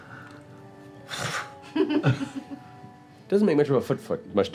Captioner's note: fire burning